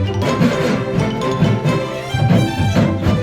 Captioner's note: sawing